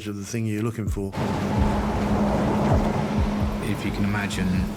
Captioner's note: engine roaring